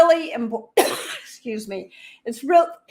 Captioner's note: coughing